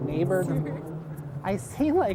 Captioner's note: woman giggling